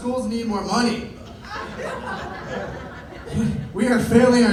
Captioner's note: laughter